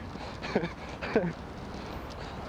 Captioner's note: laughs